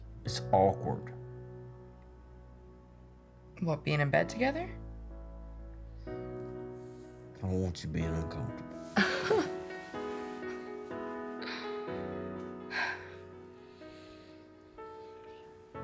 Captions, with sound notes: It’s awkward. What being in bed together? I don’t want you being uncomfortable. [Chuckles] [Sighs]